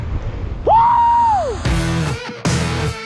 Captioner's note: pilot joyfully screams; exhilarating rock music